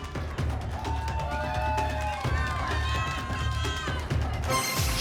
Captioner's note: cheering; ping